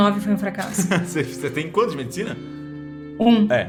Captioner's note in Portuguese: risos